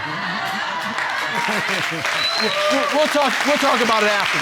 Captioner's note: audience laughing